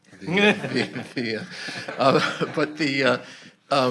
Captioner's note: audience laughing